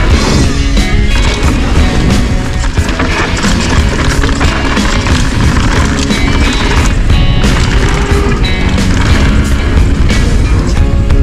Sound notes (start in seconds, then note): 1.2 tires crushing dirt